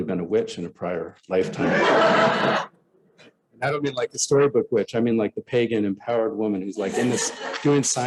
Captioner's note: laughter